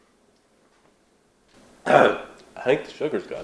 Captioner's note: cough